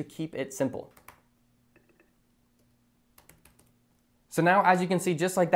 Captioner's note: keyboard clacking